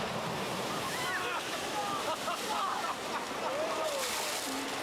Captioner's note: man laughs